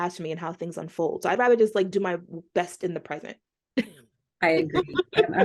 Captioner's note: laughter